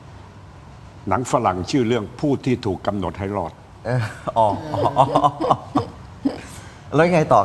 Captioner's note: laughs